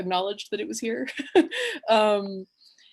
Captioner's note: she chuckles